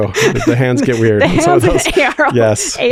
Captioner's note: chuckles